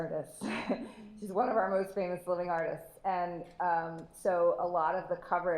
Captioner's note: laughs